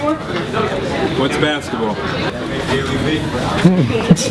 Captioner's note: voiceover